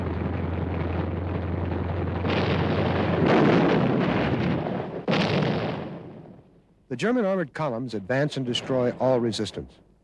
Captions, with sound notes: (explosions) The German armored columns advance and destroy all resistance.